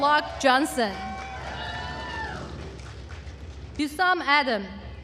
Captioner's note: attendees cheering and applauding